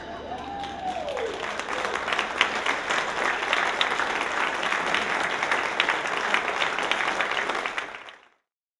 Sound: applause

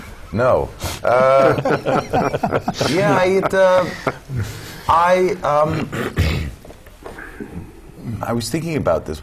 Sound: laugh

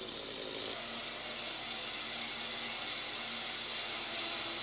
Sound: saw revving

